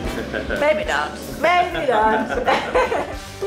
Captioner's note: chuckles